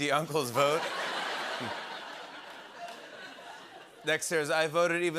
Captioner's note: laughter